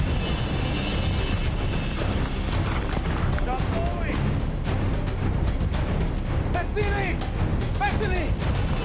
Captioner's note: speaking in foreign language